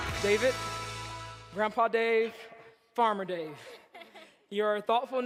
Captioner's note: laughs